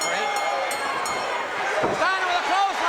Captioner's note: bell ringing